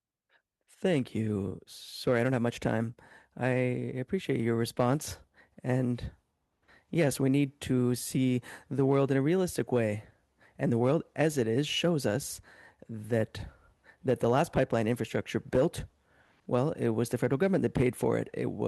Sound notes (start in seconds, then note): 5.0 speaking French